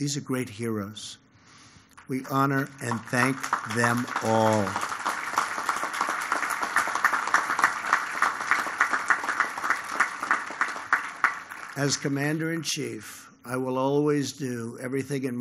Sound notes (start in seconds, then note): 4.7 applause